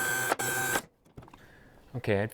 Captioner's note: buzzing